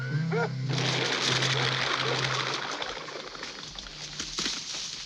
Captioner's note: birds flapping